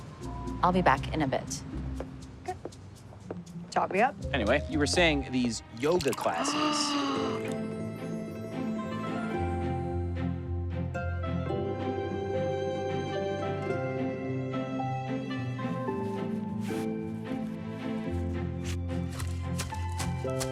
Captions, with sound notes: I'll be back in a bit. - Okay. Top me up. - Anyway, you were saying these yoga classes... (gasps) (whimsical music)